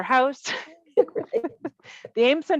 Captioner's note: both laughing